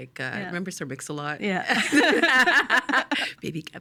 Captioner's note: both laughing